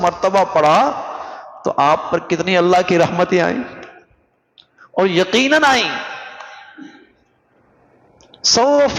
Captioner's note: sigh